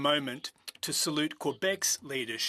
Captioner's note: speaking French